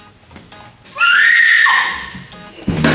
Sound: screams

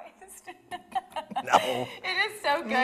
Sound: laughs

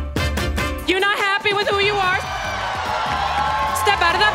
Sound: audience cheering

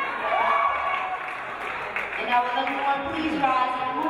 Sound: audience applauding

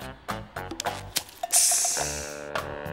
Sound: sizzling

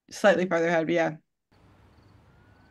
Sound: sirens in the distance; noise of the bus

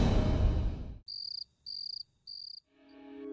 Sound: crickets chirping

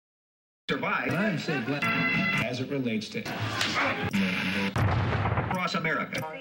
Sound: indistinct television chatter and channel surfing

